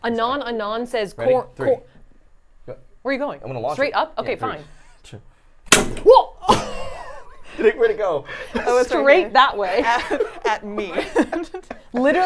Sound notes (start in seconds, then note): 5.7 popping sound; 6.4 laughs; 9.5 both laugh